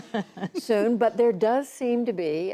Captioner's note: laughter